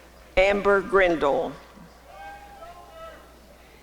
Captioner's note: applause and cheering